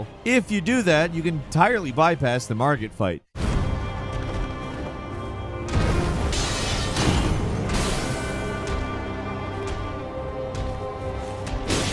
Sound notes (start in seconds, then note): 4.7 tense music; 7.4 blows landing